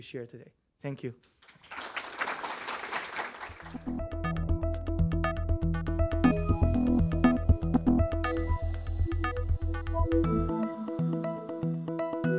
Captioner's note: applause